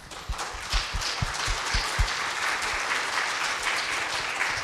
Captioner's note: people clapping